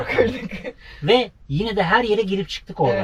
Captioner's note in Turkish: kahkaha